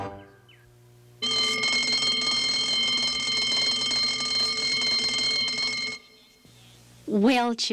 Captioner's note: bell ringing